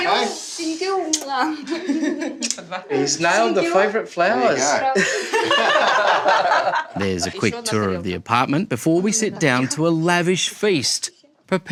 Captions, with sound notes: (LAUGHTER) Thank you. Thank you. Mwah. (LAUGHS) He's nailed the favourite flowers. There you go. (LAUGHTER) 'There's a quick tour of the apartment 'before we sit down to a lavish feast